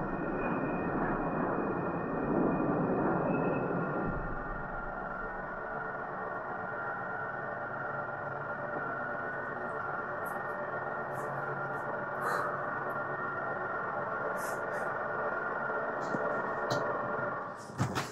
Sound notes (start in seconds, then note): 12.1 deep breathe